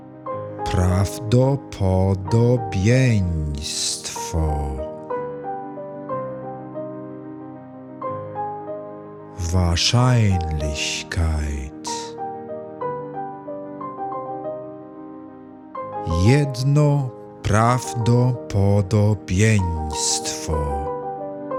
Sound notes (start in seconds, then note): 11.1 german